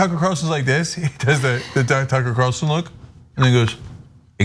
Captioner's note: laugh